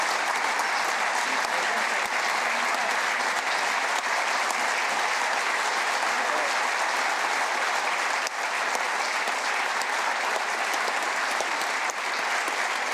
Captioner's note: applause